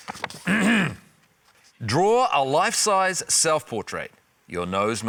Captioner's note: clears throat